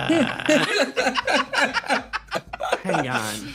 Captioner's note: laughs